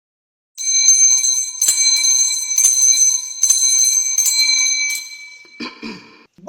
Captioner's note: bell ringing